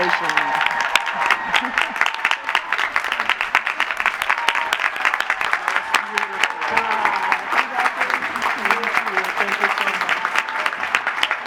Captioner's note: applause